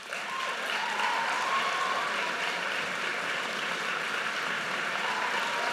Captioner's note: audience cheers and applauds